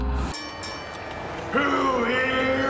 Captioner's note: bell dings